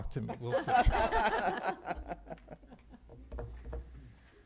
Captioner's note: laughter